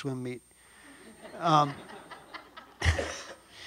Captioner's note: audience laughs